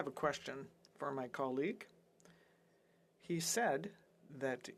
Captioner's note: speaking French